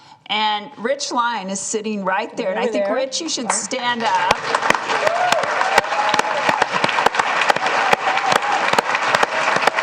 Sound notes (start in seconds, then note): 3.9 applause